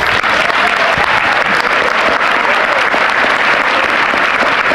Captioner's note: audience applauding